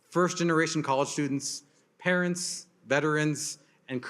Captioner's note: none